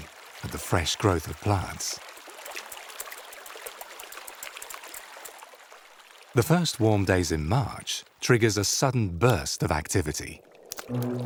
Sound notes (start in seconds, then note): 1.9 water sloshes